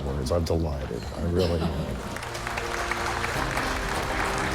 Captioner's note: applause